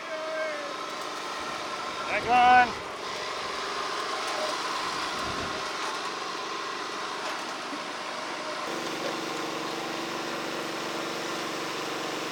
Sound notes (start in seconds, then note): 3.0 engines running